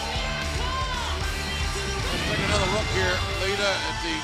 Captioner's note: cheers and applause